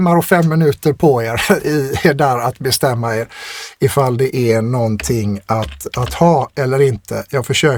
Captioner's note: laughter